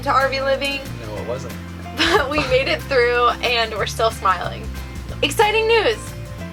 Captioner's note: laughing